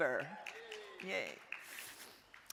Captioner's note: crowd cheering; crowd applauding